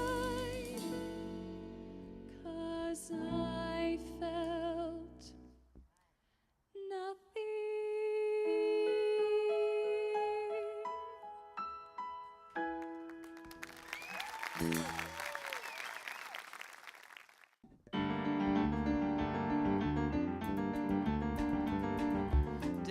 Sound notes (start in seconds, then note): 12.7 applause